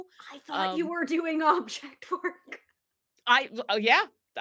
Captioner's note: laughs